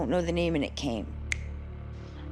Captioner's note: snaps fingers